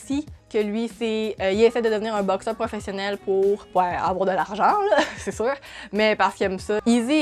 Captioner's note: laughs